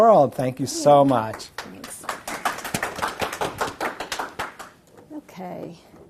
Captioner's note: applause